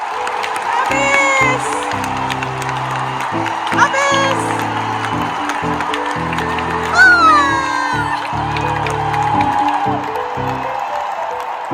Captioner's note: applause; closing music